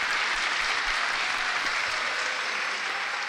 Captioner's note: crowd applauds